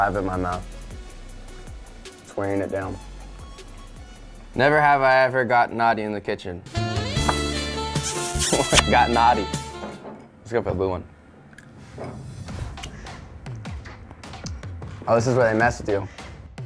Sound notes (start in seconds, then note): 6.6 seductive music; 7.9 kissing; 9.2 laughs; 11.5 chewing; 13.5 upbeat music